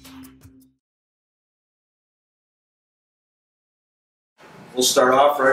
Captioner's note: silence